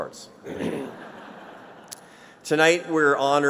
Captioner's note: laughter